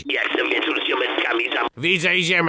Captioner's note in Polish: telefon dzwoni